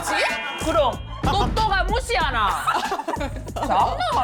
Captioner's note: sound of someone else getting mad for her